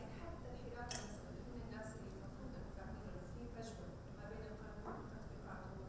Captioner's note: speaking foreign language